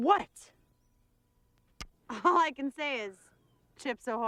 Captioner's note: laughing